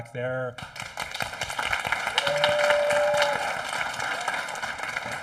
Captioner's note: audience applauding